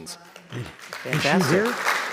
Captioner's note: attendees applauding